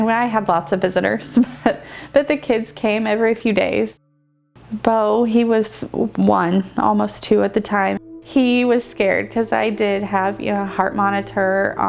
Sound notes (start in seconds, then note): 1.2 laughs